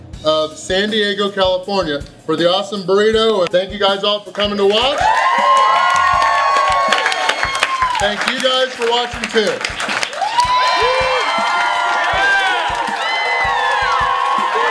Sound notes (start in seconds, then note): 5.6 applause; 10.0 cheering and applause